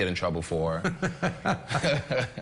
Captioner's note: chuckles